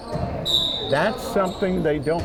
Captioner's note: whistle blowing